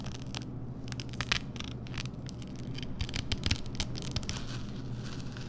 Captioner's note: crunching